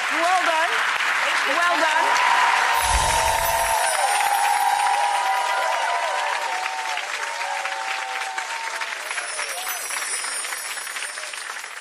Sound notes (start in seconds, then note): 0.0 clapping; 2.6 cheering and clapping